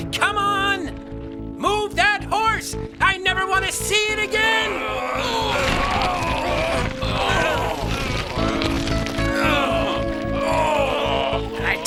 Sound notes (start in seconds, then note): 4.5 men grunting